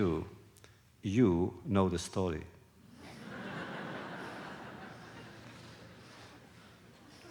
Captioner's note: laughter